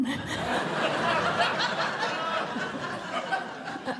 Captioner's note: laughter